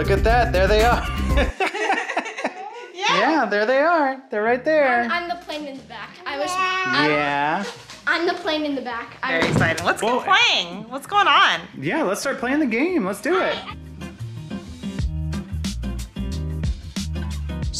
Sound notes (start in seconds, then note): 2.6 laughing; 14.4 upbeat music